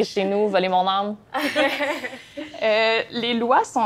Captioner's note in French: rires